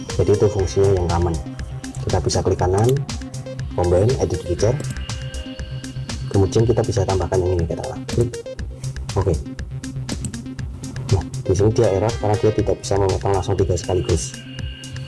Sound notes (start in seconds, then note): 8.1 click